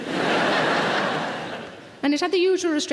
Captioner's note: audience laughing